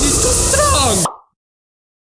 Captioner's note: pop